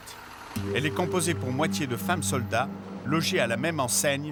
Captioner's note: Hebrew spoken audio